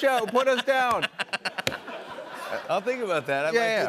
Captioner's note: laughter